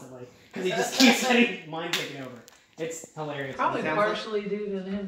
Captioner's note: chuckling